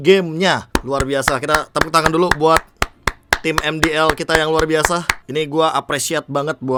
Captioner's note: claps